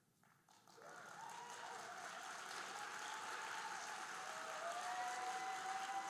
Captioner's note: audience cheering and applauding